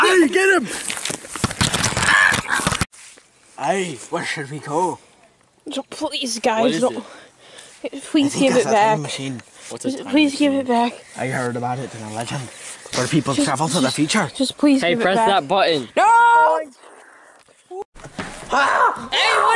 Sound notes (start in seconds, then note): 1.7 peculiar Squawks